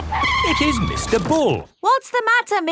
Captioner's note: tires screeching